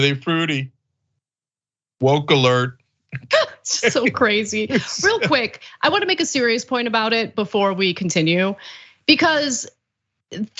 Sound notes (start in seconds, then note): 3.2 laugh